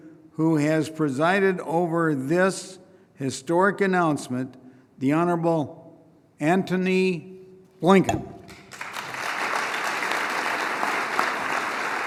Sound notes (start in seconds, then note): 8.4 applause